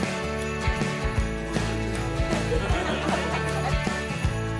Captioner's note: laughter